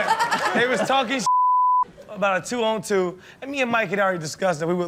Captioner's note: beep